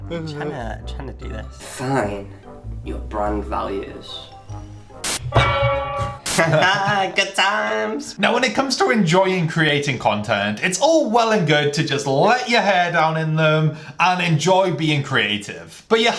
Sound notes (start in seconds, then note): 5.0 frying pan hit; 6.4 laughter